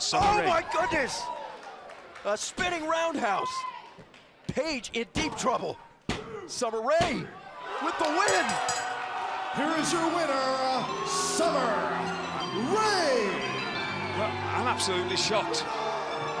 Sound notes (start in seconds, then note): 8.2 bell ringing; 10.8 crowd cheering